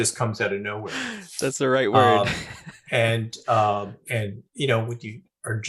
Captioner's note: laughing